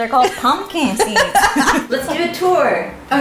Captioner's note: laughing